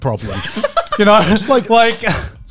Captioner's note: laughs